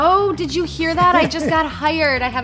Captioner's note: giggles; laughs